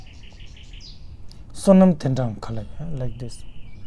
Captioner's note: tibetan